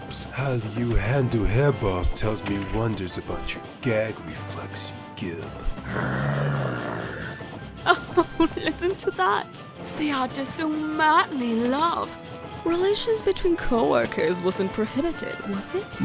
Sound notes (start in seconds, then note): 5.6 growls